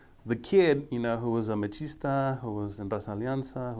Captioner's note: speaking foreign language